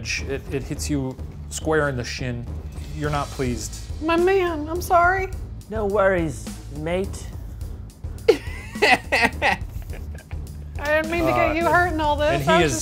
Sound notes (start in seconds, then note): 8.3 laughing